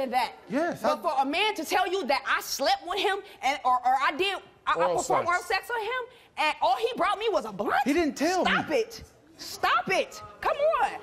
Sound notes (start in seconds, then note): none